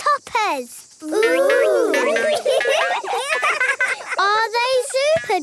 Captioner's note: laughing